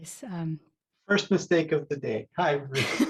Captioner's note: both laugh